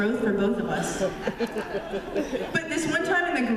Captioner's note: laughter